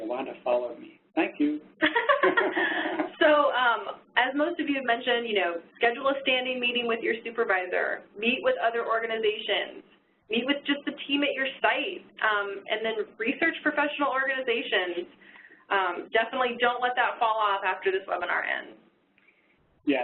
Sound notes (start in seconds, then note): 1.8 laugh